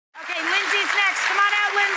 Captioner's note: applause